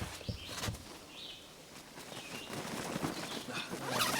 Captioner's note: zipper zipping; fabric flapping